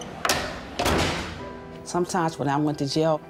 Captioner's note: metals clanking